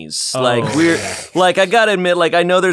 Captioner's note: laughter